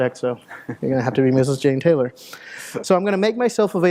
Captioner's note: chuckles